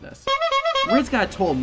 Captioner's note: honking